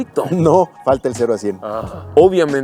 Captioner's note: sighs